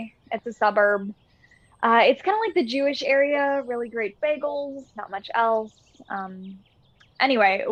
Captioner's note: none